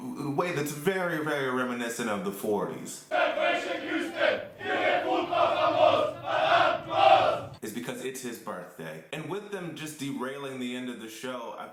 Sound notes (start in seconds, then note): 3.1 chanting in German